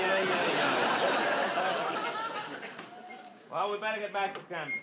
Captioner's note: audience laughing